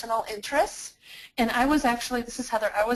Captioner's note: voiceover